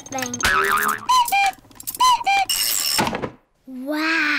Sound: clock cuckoos

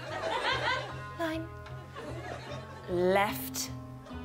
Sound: audience laughing

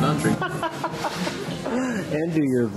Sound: laughter

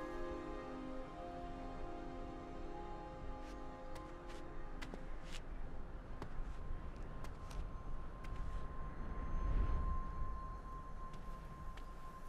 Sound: footsteps

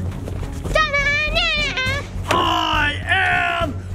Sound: suspenseful music; humming

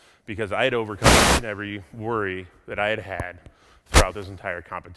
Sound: none

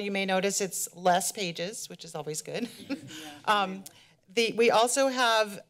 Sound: laughs

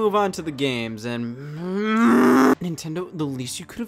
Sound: groans

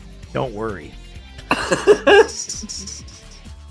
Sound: laughter

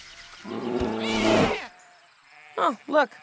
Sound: bear growls; sheep squeals

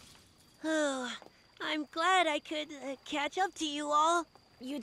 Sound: Elliott sighs

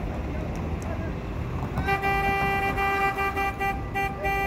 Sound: insistent honking from the left

